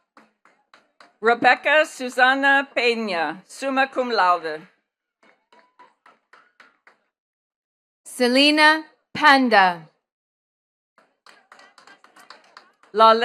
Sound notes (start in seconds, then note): 0.0 attendees clapping; 5.2 attendees clapping; 11.0 attendees clapping